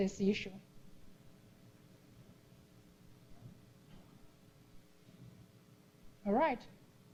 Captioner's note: pause